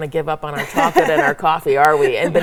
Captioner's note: laughs